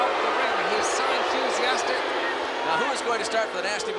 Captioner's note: crowd clamoring